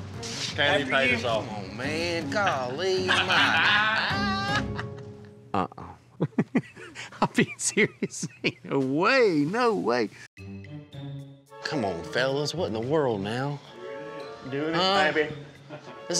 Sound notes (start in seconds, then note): 2.4 laughing